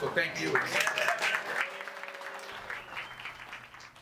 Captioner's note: group applauding